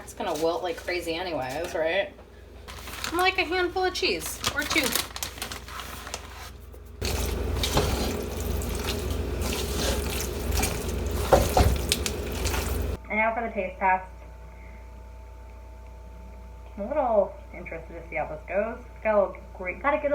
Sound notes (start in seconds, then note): 7.0 food simmering